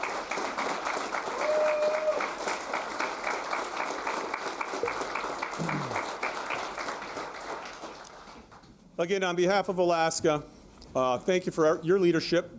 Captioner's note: applause